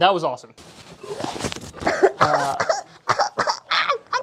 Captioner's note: coughing